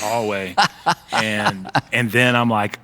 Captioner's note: laughing